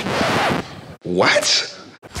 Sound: record scratching

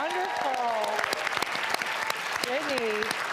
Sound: applause

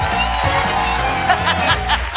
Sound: laughing

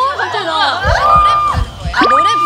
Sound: heartbeat

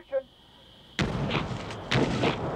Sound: explosion

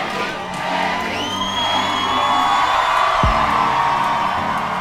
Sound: crowd yelling

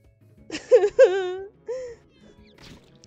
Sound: sobs

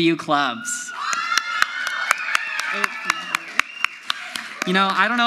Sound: crowd yells; audience applauds

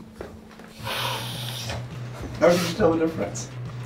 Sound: inhaling

